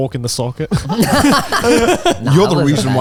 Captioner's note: all laughing